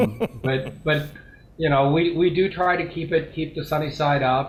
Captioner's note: laughs